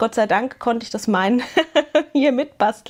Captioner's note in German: gelächter